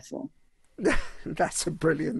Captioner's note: chuckles